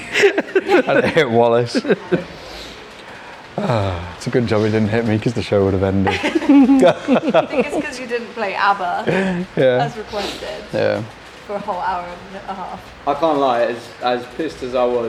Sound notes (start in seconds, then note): 0.0 laughing; 5.8 laughing